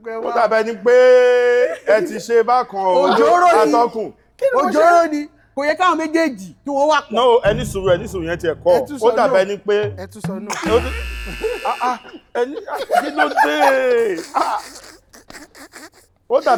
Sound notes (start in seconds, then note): 10.4 buzzer pressed; 12.4 everyone laughs